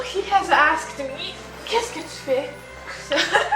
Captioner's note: laughs